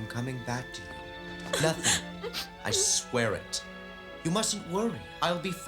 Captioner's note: sobs